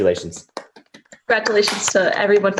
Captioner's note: clapping